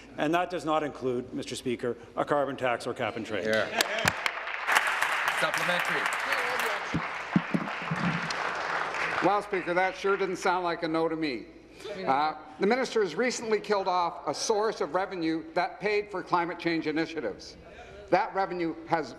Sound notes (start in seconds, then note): 6.5 applause